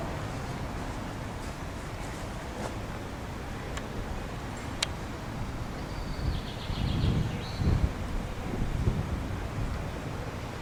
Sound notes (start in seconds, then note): 4.8 click; 5.8 birds Chirping